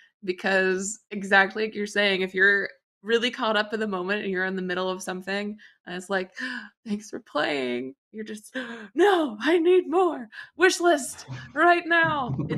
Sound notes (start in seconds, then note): 8.9 gasp